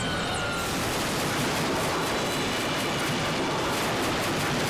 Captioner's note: helicopter crashing